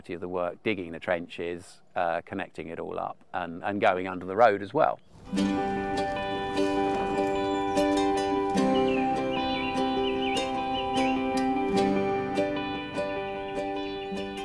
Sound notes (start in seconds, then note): 5.3 slow guitar music; 9.2 birdsong